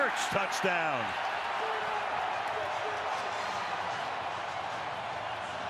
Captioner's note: cheers, applause